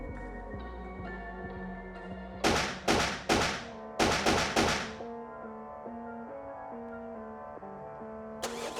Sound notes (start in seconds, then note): 3.9 gun shots; 4.9 soft music